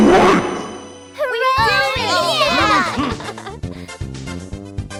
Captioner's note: cheering; chuckles